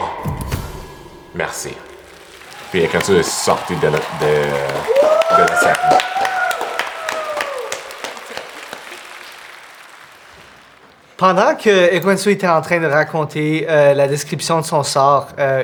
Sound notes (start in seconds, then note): 0.0 drum hit; 5.7 applause and cheering